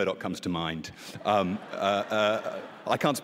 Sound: laughter

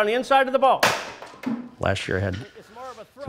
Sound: bat hits floor

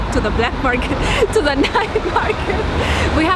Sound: giggles

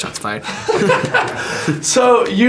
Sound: laughs

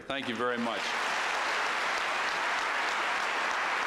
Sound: applause

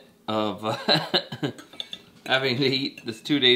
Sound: laughs

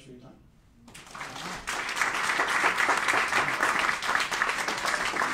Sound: applauding

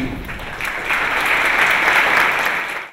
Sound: applause

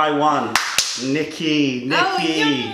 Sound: clapping

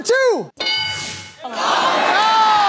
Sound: bell dings

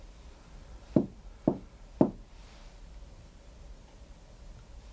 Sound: knocks on ceiling

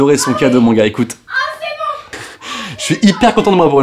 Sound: sex noises

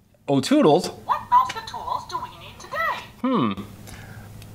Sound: voiceover

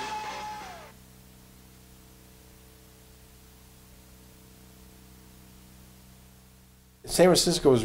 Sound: audio silence

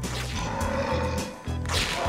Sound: growling

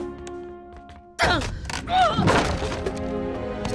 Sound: grunting

